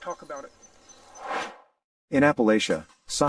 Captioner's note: air swooshes